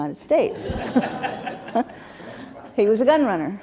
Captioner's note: laughter